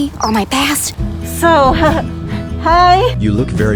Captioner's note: giggles